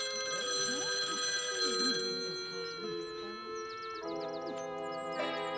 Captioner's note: phone rings; soft muttering